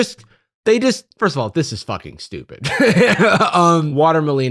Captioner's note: laughs